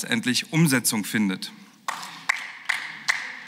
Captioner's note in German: Beifall